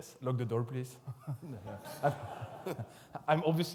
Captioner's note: audience laughs